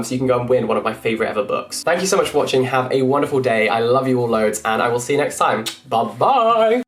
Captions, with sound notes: so you can go and win one of my favorite ever books. Thank you so much for watching. Have a wonderful day. I love you all loads and I will see you next time. (kiss smooching) Bye bye!